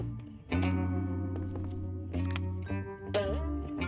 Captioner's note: hairdryer whirs